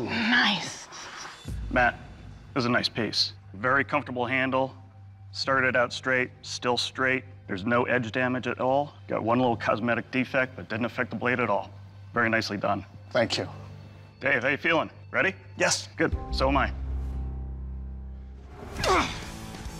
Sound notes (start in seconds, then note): 18.0 blade sli slicing; 18.8 grunting